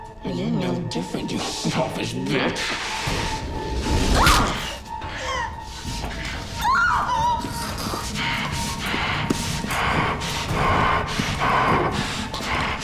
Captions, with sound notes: Well, you're no different, you selfish bitch. (punch cracks) (Emily screams) (Woodrow breathes heavily)